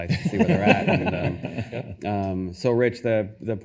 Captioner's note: attendees laughing